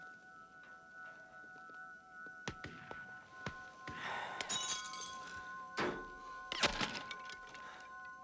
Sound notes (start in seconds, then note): 2.4 gunshots slow downin distance